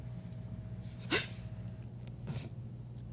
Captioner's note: gasps